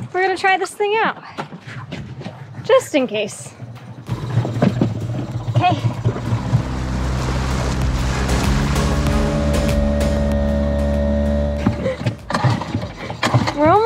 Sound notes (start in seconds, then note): 6.6 boat engine rumbling; 12.1 engine sputtering